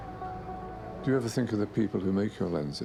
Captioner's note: voiceover